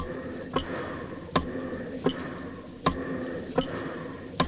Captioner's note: breathing quickens